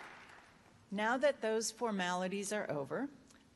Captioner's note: applause